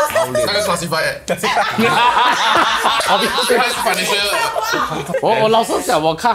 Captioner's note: commotion